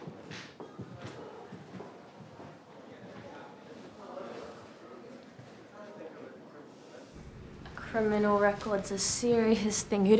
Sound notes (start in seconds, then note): 2.1 people chattering